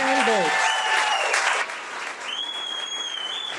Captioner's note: audience cheering